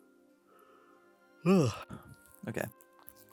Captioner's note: yawn